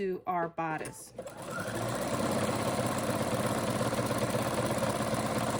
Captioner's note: sewing machine whirring